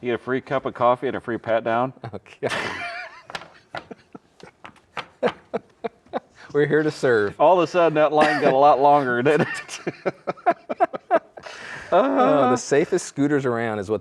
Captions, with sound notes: Where's that in Jerseyville? - Jerseyville. - You get a free cup of coffee and a free pat down. - Okay. (both laughing) We're here to serve. - All of a sudden that line got a lot longer, didn't it? (both laughing)